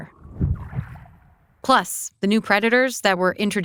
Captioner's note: water splashing